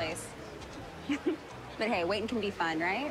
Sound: chuckles

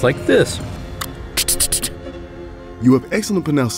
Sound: click of the tongue followed by a stuttering ‘t’ sound

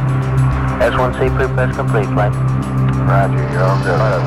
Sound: radio chatter

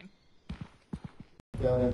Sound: foot steps

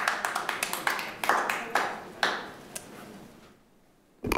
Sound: group clapping

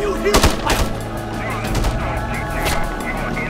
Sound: radio chattering

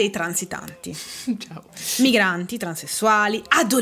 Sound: laughing

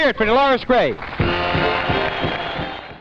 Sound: audience applauding

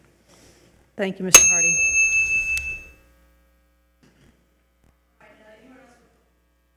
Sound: bell chimes

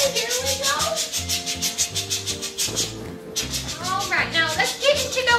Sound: choo choo noises

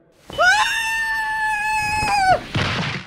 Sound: KRILLIN screams

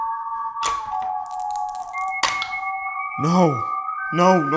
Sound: dice rattling

